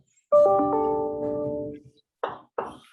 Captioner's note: computer dings loudly; chalkboard tapping loudly